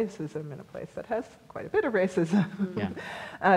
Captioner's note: laughs